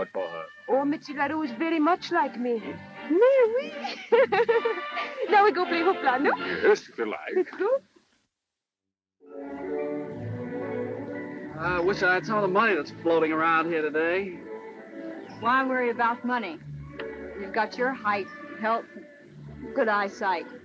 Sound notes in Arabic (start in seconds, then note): 3.2 يضحك; 3.7 يتحدث بلغة أجنبية